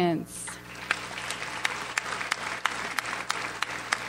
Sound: audience applauds

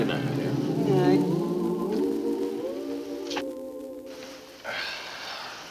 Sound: people humming; Brad sighs

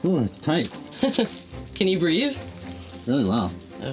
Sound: chuckles

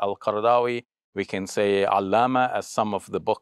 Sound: speaks Arabic

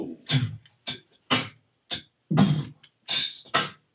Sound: Mr. Max beatboxing very slowly

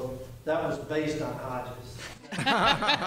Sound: laughter

